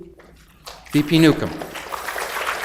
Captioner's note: audience applauds